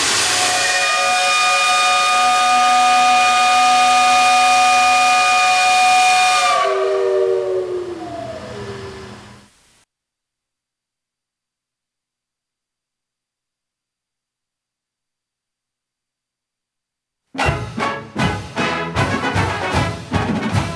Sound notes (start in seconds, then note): 0.8 whistle blowing